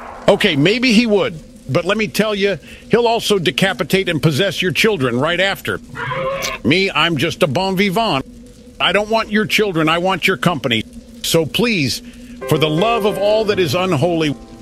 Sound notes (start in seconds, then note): 6.0 demon squeals and blood spatters